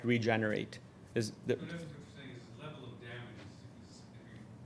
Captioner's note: speaking faintly